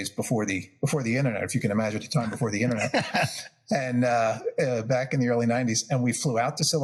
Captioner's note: laugh